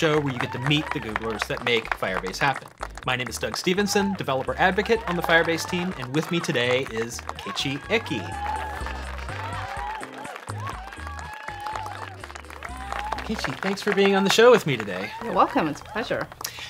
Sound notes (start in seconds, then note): 8.3 applause and cheering